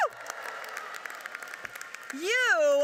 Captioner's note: audience cheers and applauds